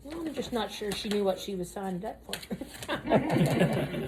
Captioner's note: laughs